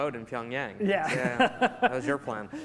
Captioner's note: laughing